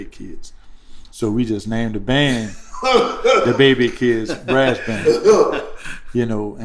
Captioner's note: laughter